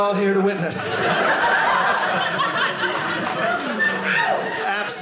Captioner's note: audience laughing